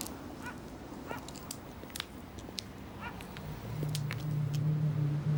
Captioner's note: high heels clicking